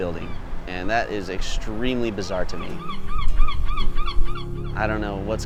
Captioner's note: seagull caws